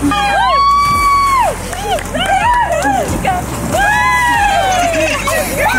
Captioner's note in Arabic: الناس يهتفون